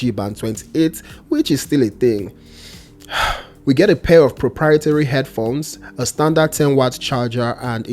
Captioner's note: sigh